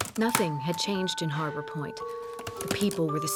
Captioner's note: typing